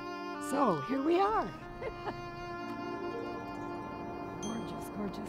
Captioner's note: chuckles